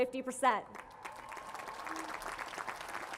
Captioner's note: cheering